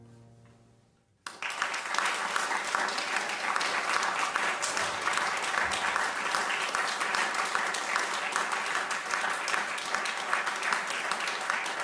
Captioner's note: applause